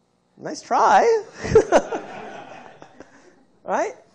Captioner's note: laughter